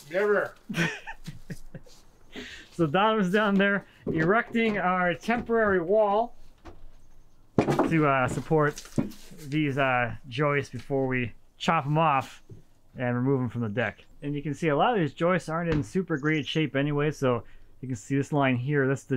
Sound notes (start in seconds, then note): 0.6 chuckles